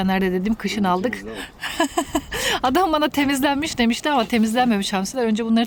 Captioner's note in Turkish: kahkaha